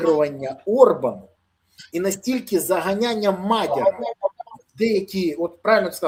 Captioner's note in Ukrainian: сміх